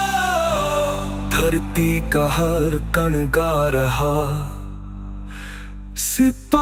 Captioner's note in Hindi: गहरी सांस लेने की आवाज़